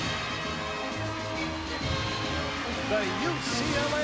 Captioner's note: cheers and applause